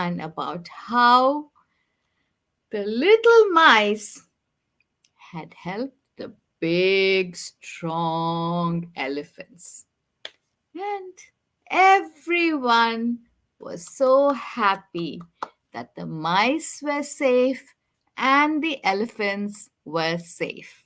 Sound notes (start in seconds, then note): 14.6 clapping